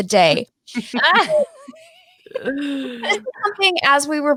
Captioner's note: ladies laughing